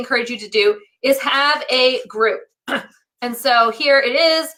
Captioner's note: clears throat